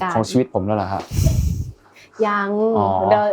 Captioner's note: laughs